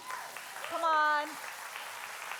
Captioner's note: congregation cheering and applauding